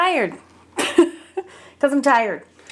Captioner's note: person laughing